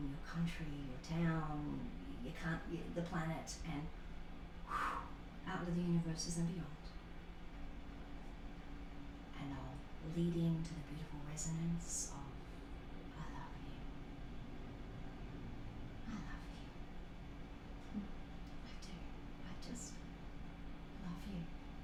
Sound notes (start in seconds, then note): 3.9 swooshing sound